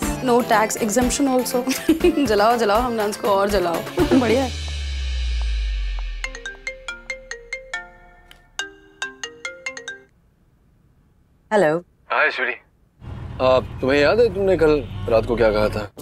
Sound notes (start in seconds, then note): 4.0 laughs; 4.0 Ananya laughs; 6.2 phone ringing